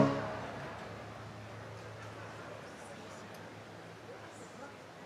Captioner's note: indistinct conversation